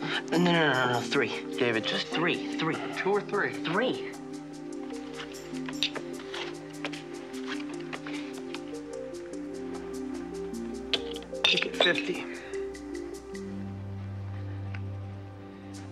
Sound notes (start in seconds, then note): 6.0 cards flicks; 13.9 music intensifies